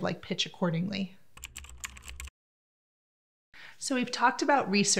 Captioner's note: typing